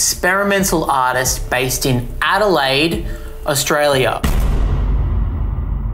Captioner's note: bang